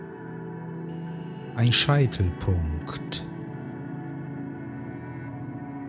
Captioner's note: german